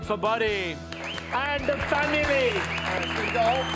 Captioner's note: all applauding